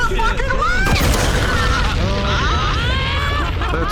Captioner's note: explosion; laughing